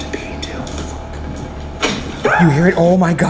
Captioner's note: item clicking; screaming